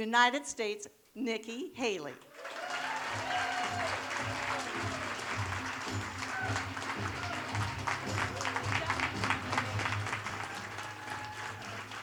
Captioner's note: applause